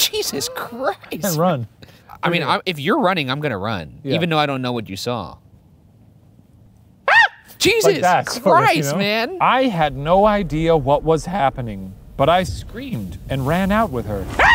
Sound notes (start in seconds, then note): 0.0 laughs; 7.1 screams